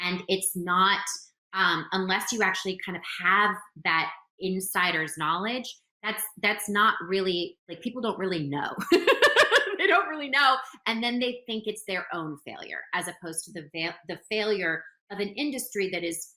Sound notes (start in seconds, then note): 8.9 laughing